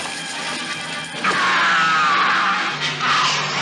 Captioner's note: screaming